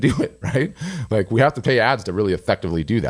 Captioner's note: laughing